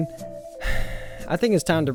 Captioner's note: sigh